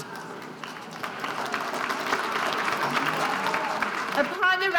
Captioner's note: students applauding